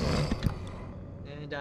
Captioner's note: click